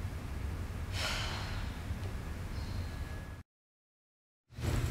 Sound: Ja'Nelle sighs

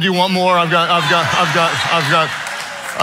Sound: audience laughing

